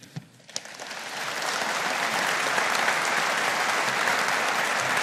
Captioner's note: audience applauding